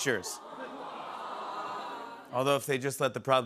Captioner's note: audience "awws"